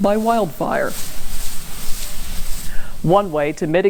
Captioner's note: water sprays